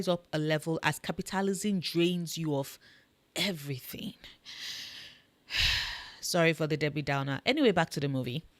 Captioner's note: sigh